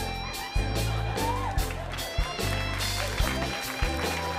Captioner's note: cheers and applause